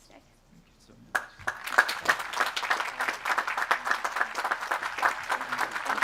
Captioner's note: audience applauds